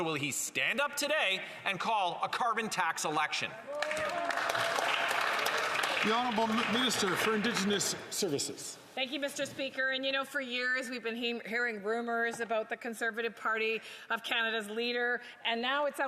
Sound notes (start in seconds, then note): 7.9 some Applause